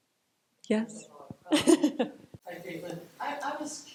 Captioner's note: chuckles